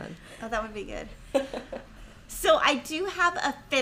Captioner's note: laughs